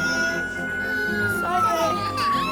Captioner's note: police siren